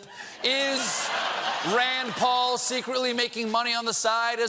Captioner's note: laughter